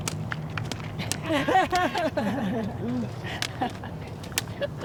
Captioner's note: laughter